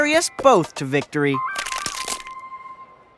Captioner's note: bones crack